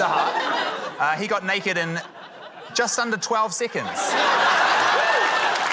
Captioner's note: laughter; cheering, applause